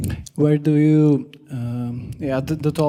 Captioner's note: voiceover